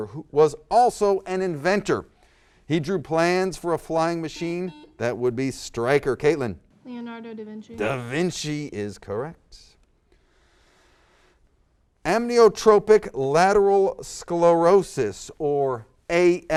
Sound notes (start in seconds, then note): 4.4 buzzer